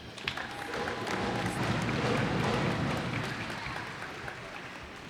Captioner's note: cheers and applause